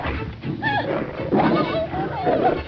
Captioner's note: cries